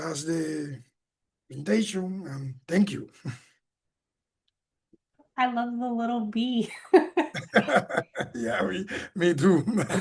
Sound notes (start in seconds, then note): 6.8 laughing